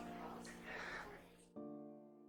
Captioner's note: Serena exhales